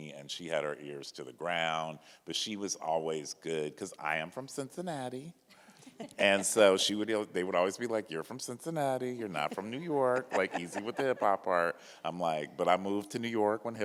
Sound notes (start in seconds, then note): 5.8 panelists chuckle